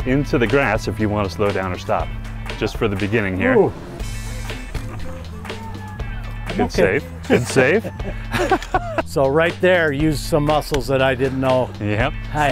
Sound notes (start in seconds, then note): 4.2 laughs; 7.1 both laughing